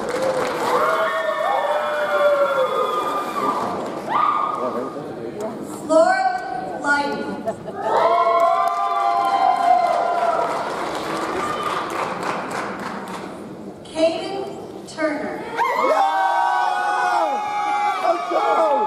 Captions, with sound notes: (audience cheers) (audience applauds) Laura Liden. (audience cheers) (audience applauds) Kayden Turner. (audience cheers)